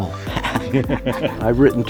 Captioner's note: chuckling